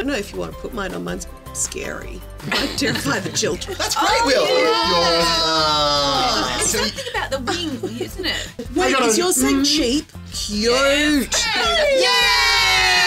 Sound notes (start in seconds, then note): 6.0 group In Unison; 11.4 group In Unison